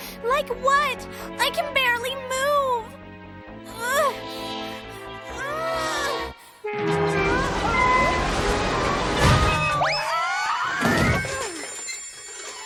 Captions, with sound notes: LIKE WHAT? I CAN BARELY MOVE. [ GRUNTING ] UH-OH! OH, NO!